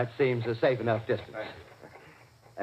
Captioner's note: off mike